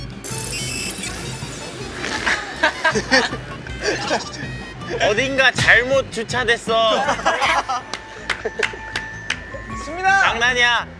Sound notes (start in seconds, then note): 3.8 haha